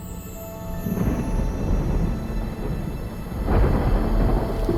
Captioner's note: thunder rumbling